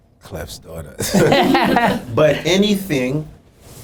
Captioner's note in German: Lachen